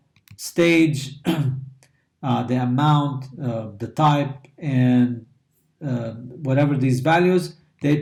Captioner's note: cough